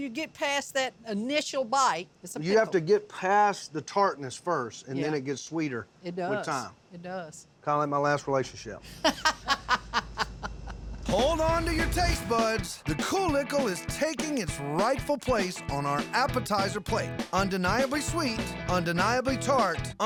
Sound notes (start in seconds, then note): 8.9 laughter